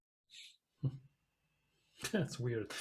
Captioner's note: laughing softly